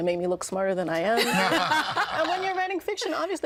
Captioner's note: all laughing